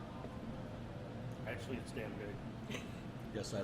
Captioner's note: laughs